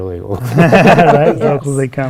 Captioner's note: laughter